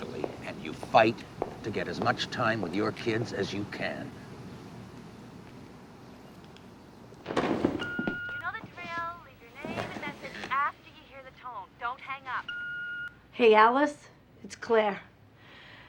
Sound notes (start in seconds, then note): 6.9 beeping; 7.7 on phone